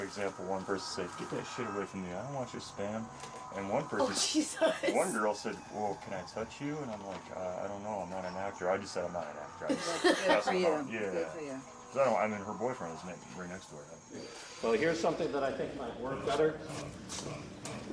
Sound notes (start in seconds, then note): 4.1 laughs; 9.7 laughs